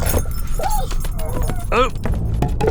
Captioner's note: dog whines